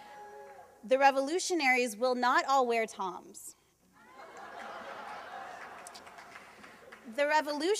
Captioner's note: laughter